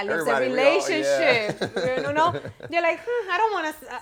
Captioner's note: laughter